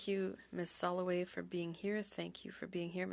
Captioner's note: speaking French